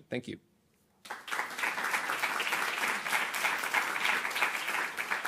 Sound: applause

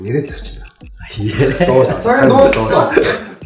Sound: laughter

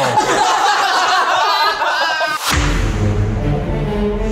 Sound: everyone laughing

